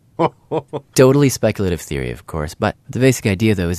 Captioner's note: laughs